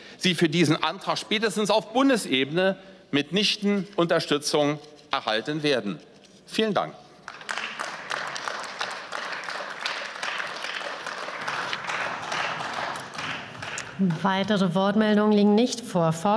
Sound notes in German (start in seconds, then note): 6.8 Beifall